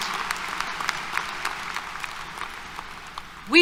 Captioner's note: applause